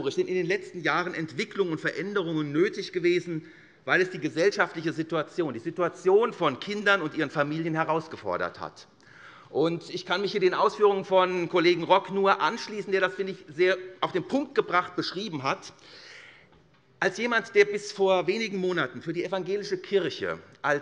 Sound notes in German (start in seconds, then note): none